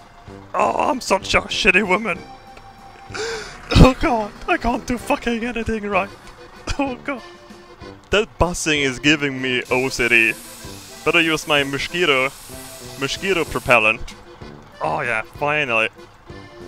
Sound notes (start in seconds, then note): 3.0 sobbing